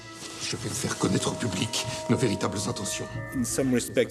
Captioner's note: Louis XVI speaking French